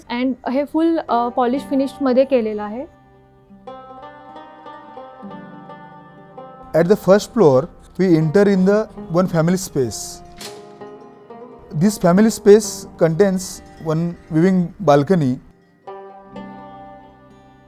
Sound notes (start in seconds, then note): 10.2 latch opens